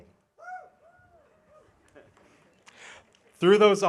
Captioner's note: audience cheering